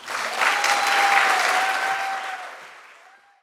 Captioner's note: audience applauding